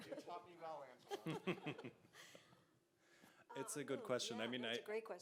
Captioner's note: all three chuckles